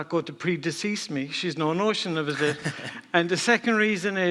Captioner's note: laughs